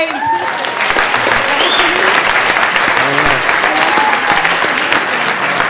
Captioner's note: audience applauding; audience cheering